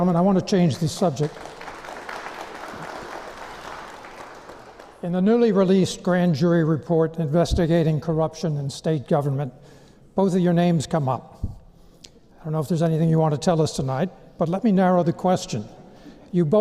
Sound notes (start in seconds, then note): 0.6 applause